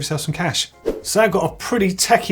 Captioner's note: swoosh